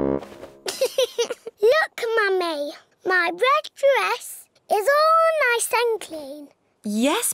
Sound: giggles

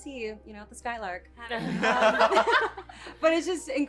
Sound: laughs

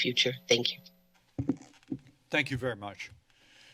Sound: microphone noise

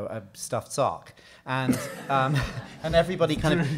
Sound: audience laughing

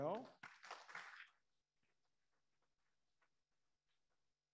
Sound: audience applauding

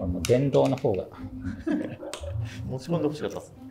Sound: laughing

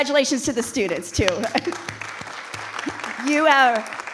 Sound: audience applauding

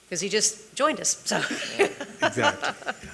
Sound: laughs

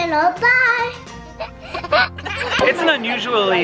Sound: laughing

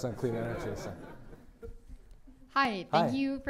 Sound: laughter

